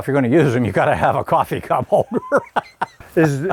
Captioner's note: laughs